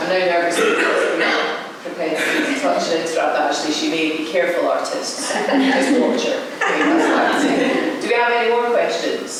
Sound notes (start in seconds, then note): 6.6 laughter